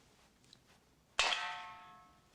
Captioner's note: clink